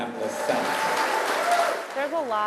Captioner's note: audience cheers and applauds